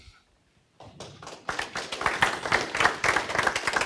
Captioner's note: applause